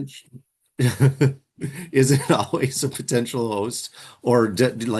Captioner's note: laughs